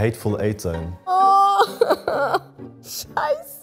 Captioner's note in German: Schluchzende Laute